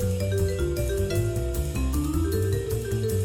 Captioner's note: none